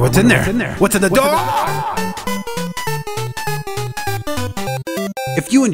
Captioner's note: echoed screaming